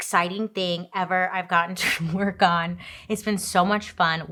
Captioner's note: laughs